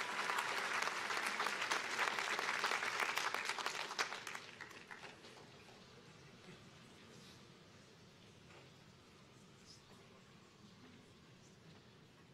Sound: cheers and applause

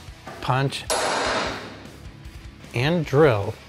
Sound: hammer thumping

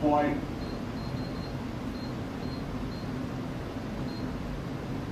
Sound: power level beeps

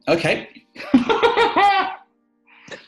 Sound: laughs

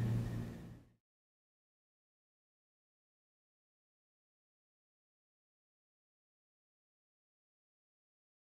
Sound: silence

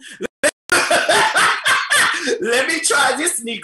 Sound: laughing

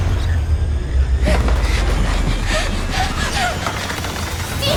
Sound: gasping

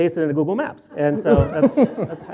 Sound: laughs; audience laughter; laughter

